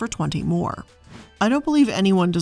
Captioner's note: air whooshing